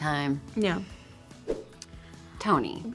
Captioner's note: graphics swoosh